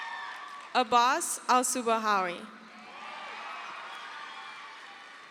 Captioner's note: crowd cheers